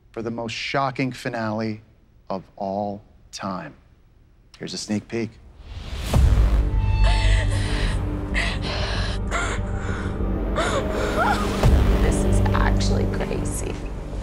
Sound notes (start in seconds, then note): 5.6 dramatic music; 6.9 crying